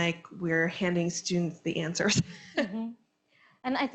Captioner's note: chuckles